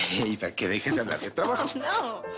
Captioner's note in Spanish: Risas